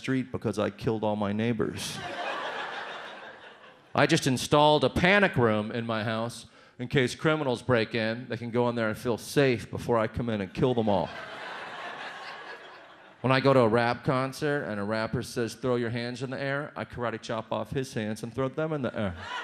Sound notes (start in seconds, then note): 1.9 audience laughs; 10.7 audience laughs; 19.1 audience laughs